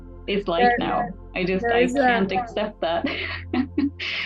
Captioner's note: laughs